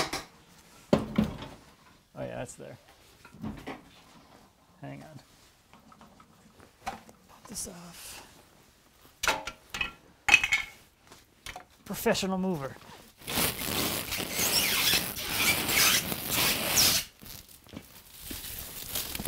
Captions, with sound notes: - Oh yeah, it's there. Hang on. Get this off. Professional mover. (squeaking)